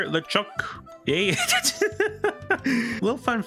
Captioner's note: off Script bit of laughter